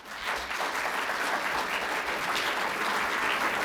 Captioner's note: audience applauds